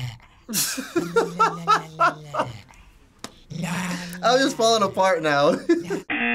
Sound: laughs

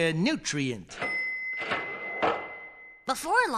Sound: cash register bell

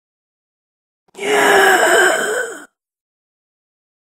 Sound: sound of a gasping zombie

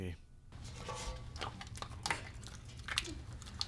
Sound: dog chewing

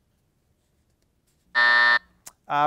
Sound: buzzer sounds

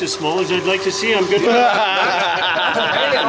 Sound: laughing

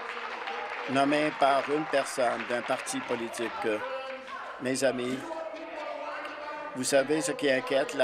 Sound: applause

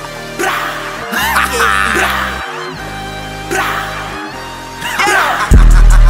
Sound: haha

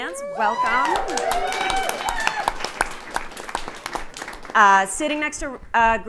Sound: audience cheering

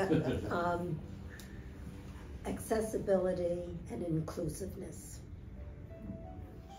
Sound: laughter

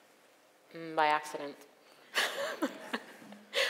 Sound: laughs

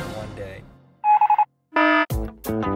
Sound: alarm; morse code

